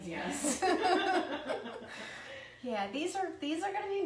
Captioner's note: laughing